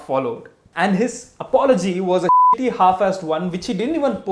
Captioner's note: beep